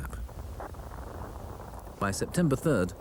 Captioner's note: radio buzzes